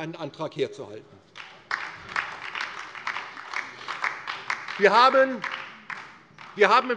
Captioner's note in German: Beifall DIE LINKE